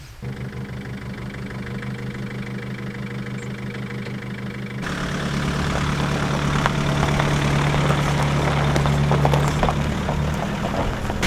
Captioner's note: engine noise